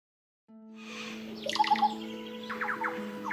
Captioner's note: sound of tropical birds